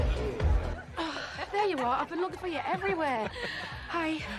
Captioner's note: Menghela nafas